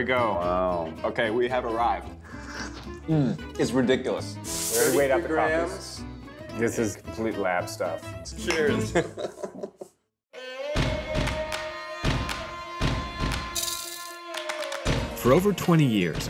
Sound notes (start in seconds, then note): 8.7 laughs; 10.6 percussive music